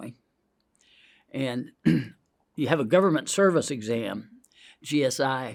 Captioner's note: clears throat